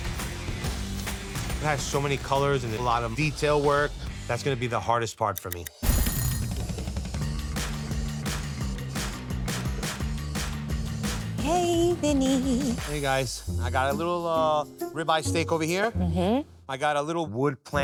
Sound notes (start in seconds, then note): 5.6 upbeat music; 5.8 timer ringing